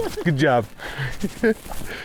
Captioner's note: laughing